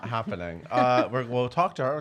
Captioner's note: laughing